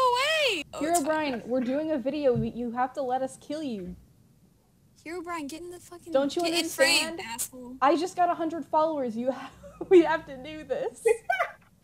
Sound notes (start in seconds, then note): 11.0 laughs